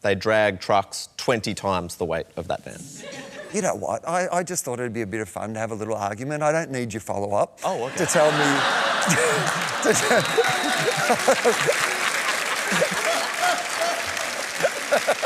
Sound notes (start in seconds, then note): 9.0 laughter; 11.5 applause